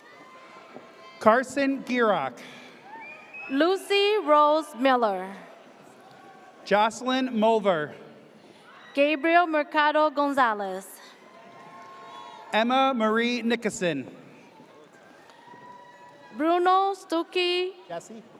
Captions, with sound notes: - Carson Gearock. - Lucy Rose Miller. - Jocelyn Molver. - Gabriel Mercado Gonzalez. (audience cheers) - Emma Marie Nickason. - Bruno Zuki Rakirti.